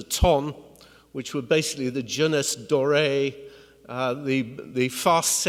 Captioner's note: speaks in foreign language